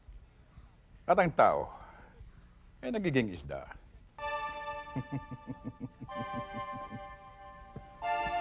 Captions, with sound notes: and turn fish into a man? -[suspense music playing] -[laughing]